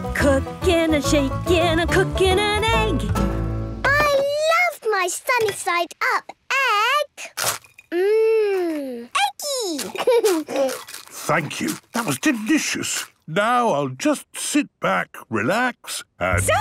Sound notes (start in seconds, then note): 8.4 laughing, crunching